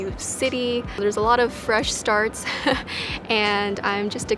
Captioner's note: laughs